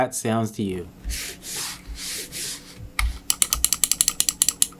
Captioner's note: mouse scrolling; mouse clicking